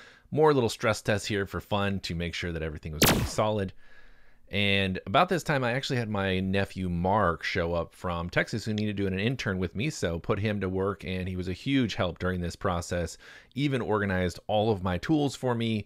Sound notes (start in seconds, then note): 3.0 exploding sound